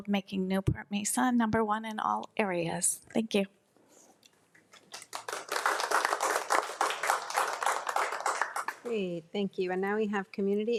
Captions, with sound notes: with the goal of making Newport-Mesa number one in all areas. Thank you. (crowd applauding) - Great, thank you.